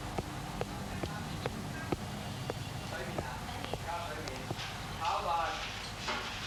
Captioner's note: kitchen personnel chattering in foreign language